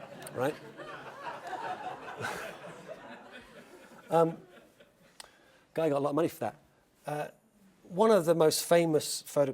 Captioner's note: laugh